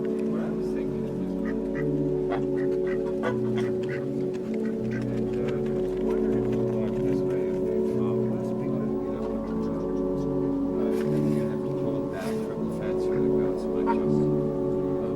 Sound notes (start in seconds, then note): 1.1 ducks quacking; 2.5 geese honking